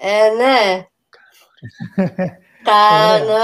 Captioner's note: Γέλιο